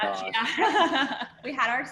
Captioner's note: laughter